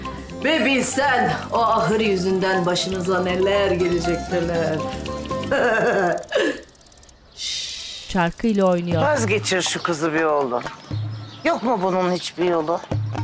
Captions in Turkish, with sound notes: Bir bilsen o ahır yüzünden başınıza neler gelecek neler. (Gülme sesi) (Stres çarkı sesi) Hişt! Vazgeçir şu kızı be oğlum. Yok mu bunun hiçbir yolu?